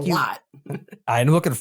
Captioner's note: laugh